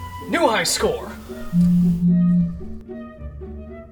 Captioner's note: phone buzzing